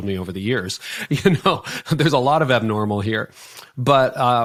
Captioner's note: laughing